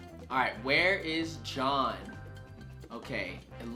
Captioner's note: none